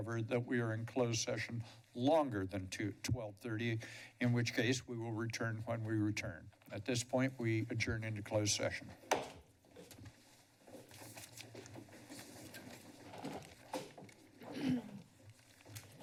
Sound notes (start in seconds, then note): 9.2 gavel tap; 14.4 clears throat